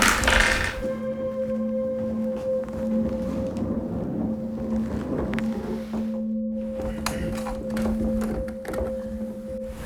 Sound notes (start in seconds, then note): 2.4 bag moves; 6.6 bag handle closes